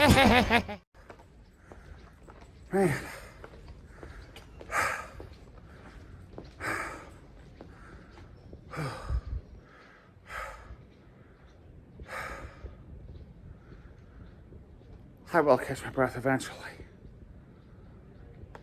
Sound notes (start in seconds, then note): 0.0 laughs; 4.2 heavy breathing; 16.8 heavy breathing slows down